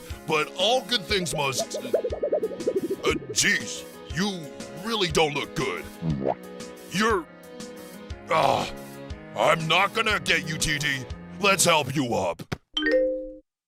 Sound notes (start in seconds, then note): 8.3 sighs